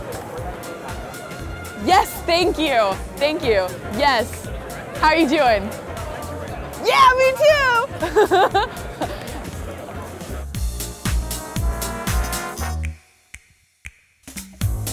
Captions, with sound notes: Hello. Yes, thank you. Thank you, yes. How are you doing? Yeah me too. (laughs) (upbeat instrumental music)